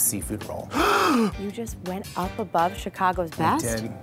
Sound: gasp

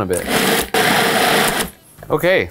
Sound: machine whirring

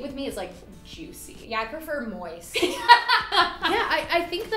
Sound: laughter

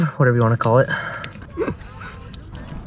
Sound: people yelling

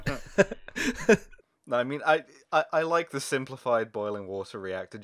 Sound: laughter

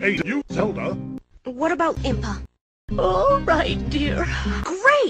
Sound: yawning

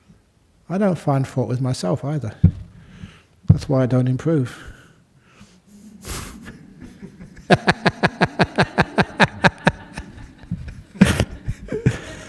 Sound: laughter

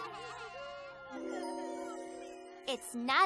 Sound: bells jingle

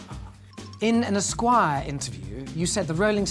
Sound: laughing; upbeat music; ringing

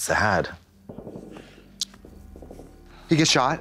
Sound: gun fire

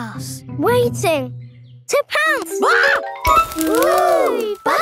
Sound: screams

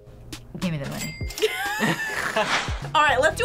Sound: both laugh

